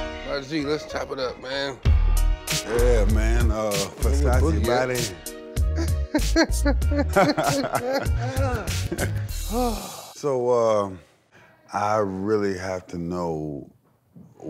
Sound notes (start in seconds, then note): 3.8 laughter